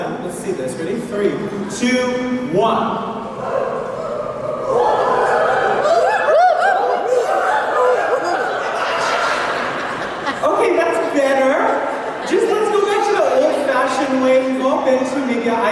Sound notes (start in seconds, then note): 3.2 wooing